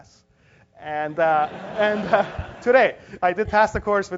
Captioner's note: laugh